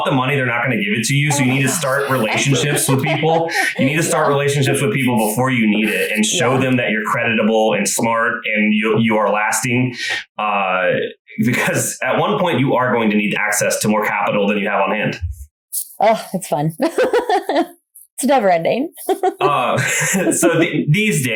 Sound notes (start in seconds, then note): 16.7 laughs